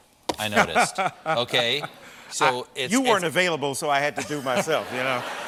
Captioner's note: laughs